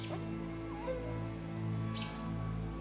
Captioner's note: dog whimpers